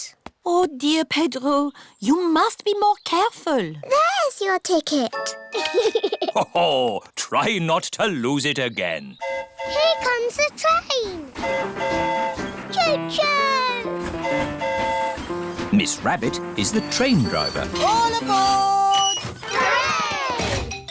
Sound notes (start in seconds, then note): 5.5 giggles; 9.2 train horn hooting; 13.9 train horn hooting